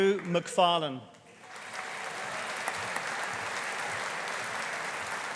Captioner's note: audience applauding